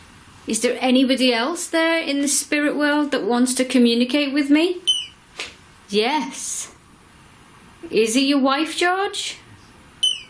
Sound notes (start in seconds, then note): 4.8 beep; 10.0 beep